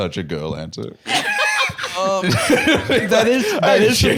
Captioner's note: laugh